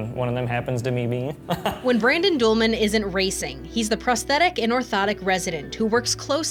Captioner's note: laughs